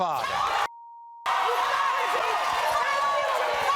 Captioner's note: screaming